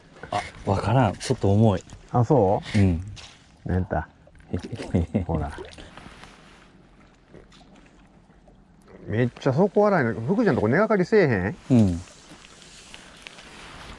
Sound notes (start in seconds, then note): 4.7 hehehe